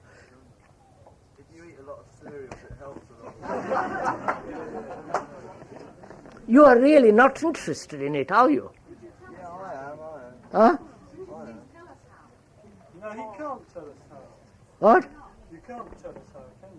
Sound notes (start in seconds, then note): 5.3 laughter